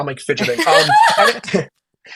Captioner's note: laughing